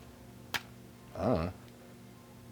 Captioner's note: "I dunno" mouth noise